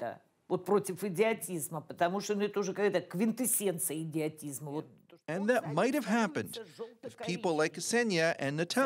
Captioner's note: speaking russian